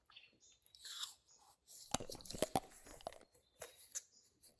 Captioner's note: teeth crunching